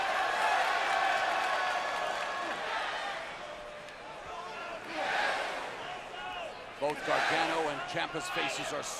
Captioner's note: crowd cheering